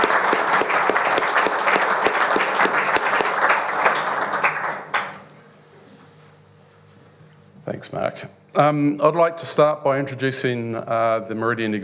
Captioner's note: applause